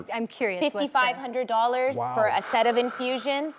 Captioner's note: sighs